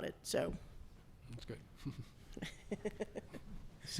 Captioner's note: chuckles